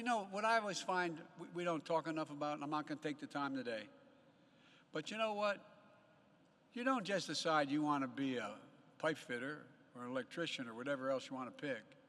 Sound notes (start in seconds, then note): none